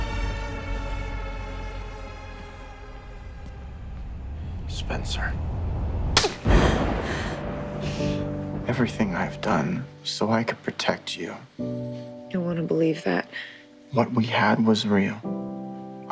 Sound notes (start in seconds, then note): 6.0 thunder crashes; 6.2 hand slaps; 11.5 slow piano music